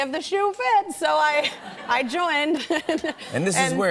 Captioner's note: laughter